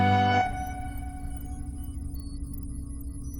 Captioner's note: electronic beeps and effects